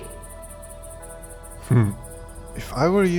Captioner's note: laughs